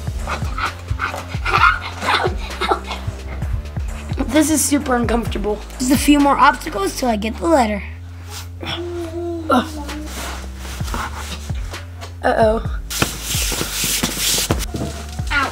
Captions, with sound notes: Ow, ha, ah. Ow, ow. This is super uncomfortable. Just a few more obstacles until I get the letter. (rustling) Uh-oh. (desperate rustling)